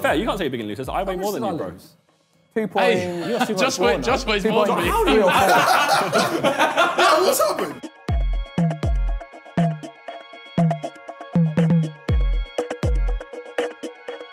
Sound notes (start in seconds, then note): 4.7 laughs; 8.6 upbeat music plays